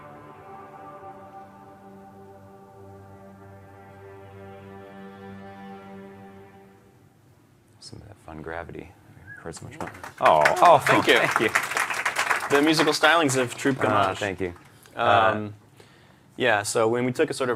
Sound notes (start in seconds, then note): 9.8 applause